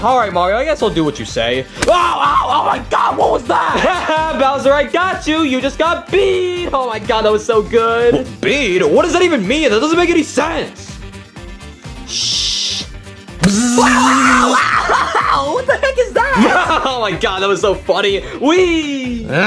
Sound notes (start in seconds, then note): 2.3 screams; 3.6 Mario laughs; 13.4 buzzes; 13.4 Yoshi screaming; 16.3 Mario laughs; 19.2 Yoshi grunting